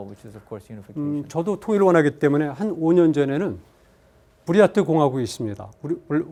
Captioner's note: speaking in Korean